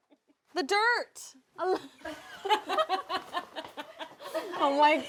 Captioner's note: group laughing